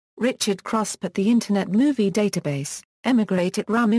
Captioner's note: German; Turkish